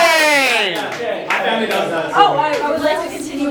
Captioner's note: red cheers; talking